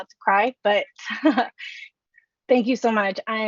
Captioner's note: chuckles